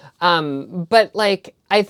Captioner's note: none